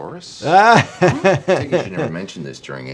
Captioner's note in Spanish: se ríe